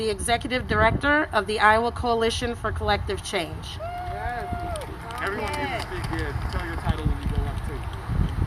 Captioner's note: applause